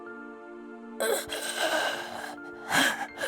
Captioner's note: gasp